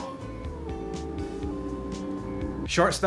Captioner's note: wolf howls